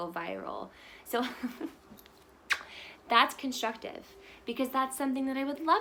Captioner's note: chuckles